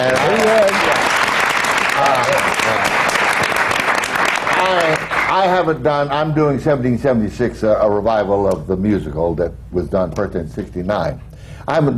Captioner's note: applause